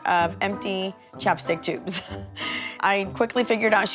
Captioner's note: chuckles